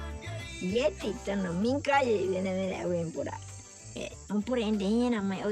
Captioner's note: speaking in foreign language